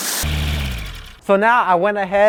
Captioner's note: water spraying; engine slowing